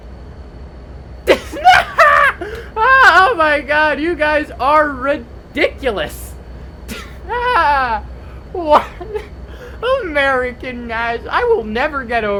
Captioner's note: laughs the loudest; continues laughing